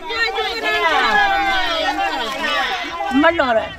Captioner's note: cheering